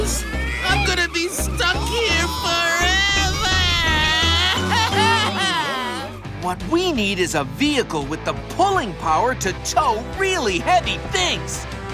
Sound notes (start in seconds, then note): 4.5 crying